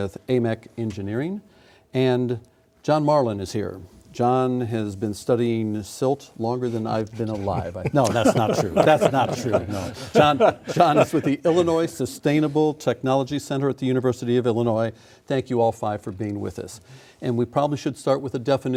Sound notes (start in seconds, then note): 10.2 laughing